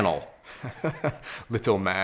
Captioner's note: laughs gently